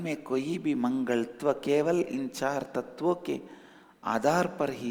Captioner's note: hindi